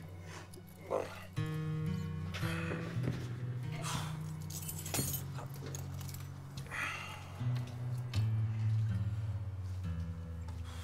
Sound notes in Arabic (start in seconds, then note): 4.3 رنين المفاتيح; 7.3 موسيقى درامية ناعمة